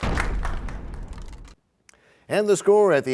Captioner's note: crashing sound